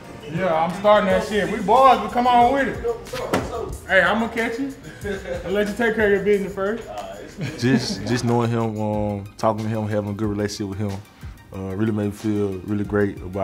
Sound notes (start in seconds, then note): 4.6 laughing; 6.9 chuckles